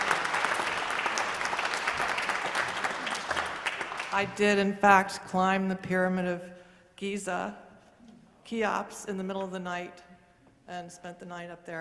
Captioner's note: applause